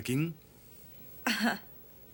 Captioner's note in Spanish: Jodie suspira